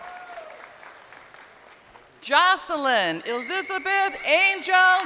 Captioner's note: crowd cheering